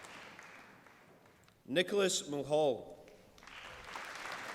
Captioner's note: applause